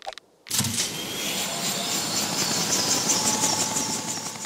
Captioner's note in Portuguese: Rugir do motor